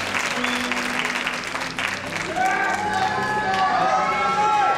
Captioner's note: cheering